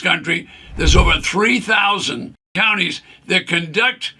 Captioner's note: screen whooshes